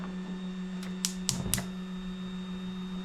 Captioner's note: gun clicking